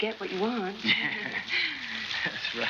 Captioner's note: laughing